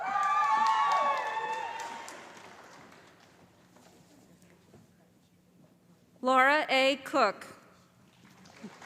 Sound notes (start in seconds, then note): 1.6 calling Graduate Names